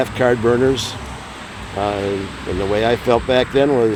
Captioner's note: wind whooshing